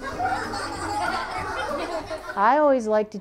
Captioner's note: children laugh